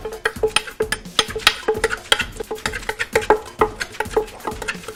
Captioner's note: sound of the mortar and pestle